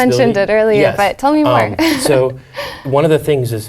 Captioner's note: laugh